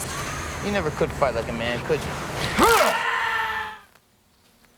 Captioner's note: bones snap; Bobby screams